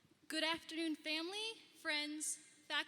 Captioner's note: none